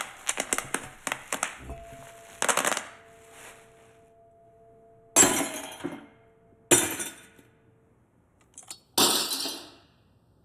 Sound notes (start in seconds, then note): 5.2 glass shattering